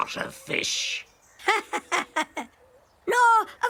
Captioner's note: chuckling